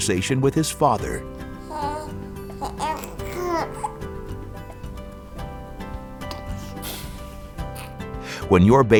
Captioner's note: baby cooing